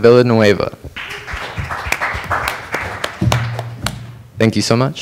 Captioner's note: applause